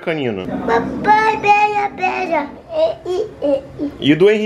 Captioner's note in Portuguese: balbuciando